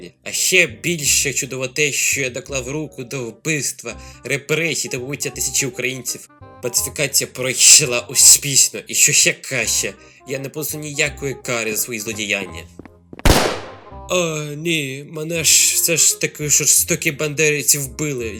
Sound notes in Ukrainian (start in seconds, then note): 13.2 Звук вистрілу